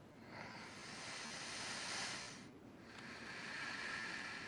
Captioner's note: breathing deeply